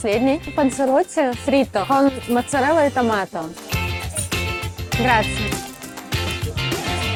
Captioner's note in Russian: говорит по-итальянски